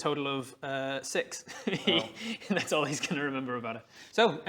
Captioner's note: heehee